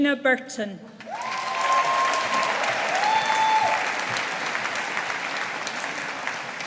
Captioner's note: audience applauding